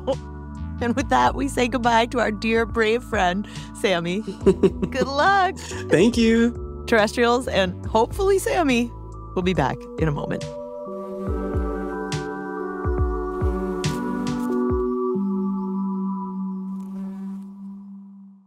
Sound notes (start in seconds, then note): 4.2 laughs